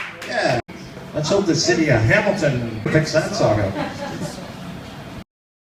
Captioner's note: laughter